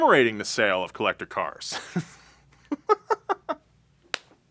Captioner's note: laughing